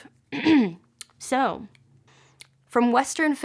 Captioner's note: clears Throat